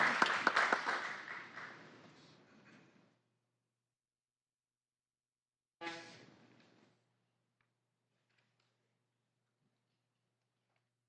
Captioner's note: applause